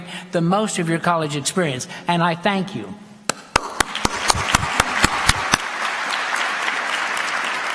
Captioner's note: applause